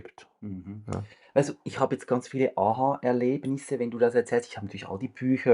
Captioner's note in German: räuspern